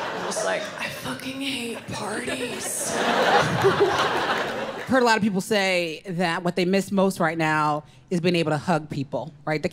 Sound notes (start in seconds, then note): 1.6 crowd laughing